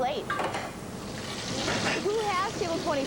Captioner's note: clinking; sizzling